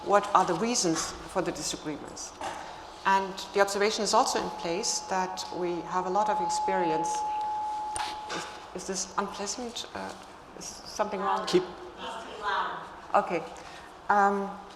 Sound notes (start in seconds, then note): 7.2 microphone hums